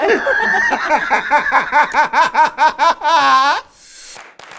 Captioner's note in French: rires